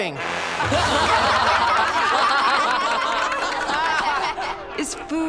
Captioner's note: laughing